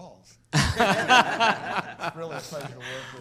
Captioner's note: laughs